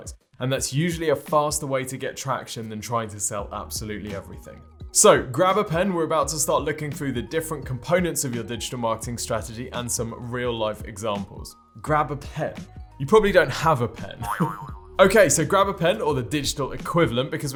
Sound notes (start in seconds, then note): 14.2 laughs